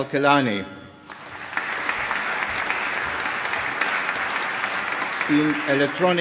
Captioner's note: applause